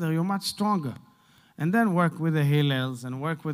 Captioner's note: Hebrew